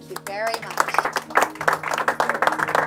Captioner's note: applause